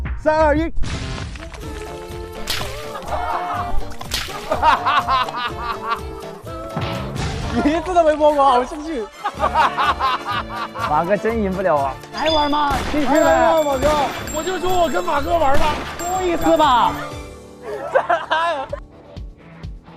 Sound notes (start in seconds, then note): 8.6 hahaha